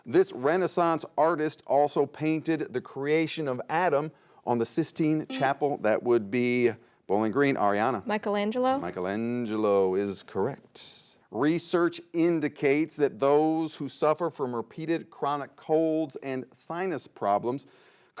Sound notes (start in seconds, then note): 5.3 buzzer buzzes